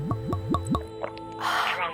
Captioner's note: glug glug glug; gulp